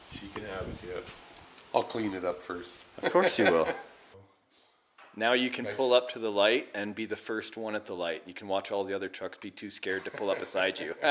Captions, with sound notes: She can have it, yep. I'll clean it up first. (laughs) - Of course you will. Now you can pull up to the light and be the first one at the light. You can watch all of the other trucks be too scared to pull up beside you.